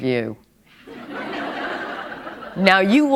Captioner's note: laughter